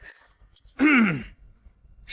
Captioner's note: cough, cough